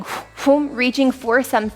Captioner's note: air sounds effect